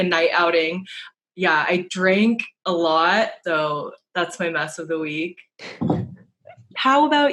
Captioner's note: laughs